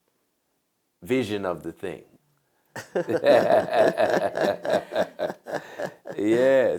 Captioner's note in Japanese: 笑い